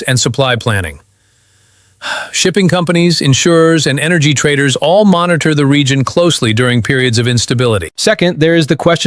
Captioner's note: sighs